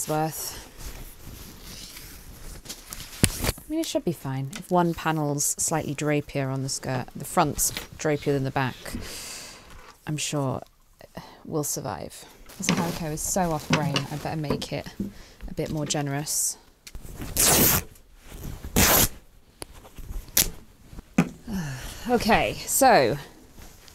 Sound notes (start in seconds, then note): 18.3 fabric ripping